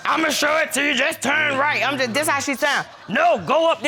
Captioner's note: deep voice